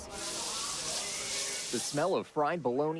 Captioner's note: food sizzling